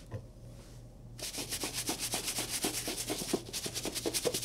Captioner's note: brush scrubbing